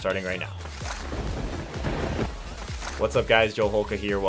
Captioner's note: thunder cracks